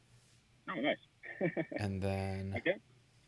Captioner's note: laughs